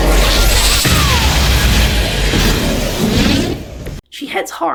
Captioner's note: cosmic blast noises